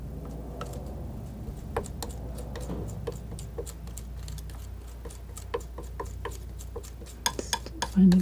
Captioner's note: tapping